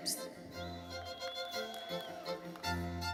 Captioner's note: audience member whistles; audience applauding